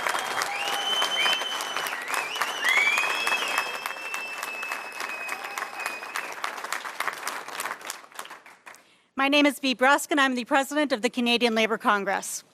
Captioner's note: applause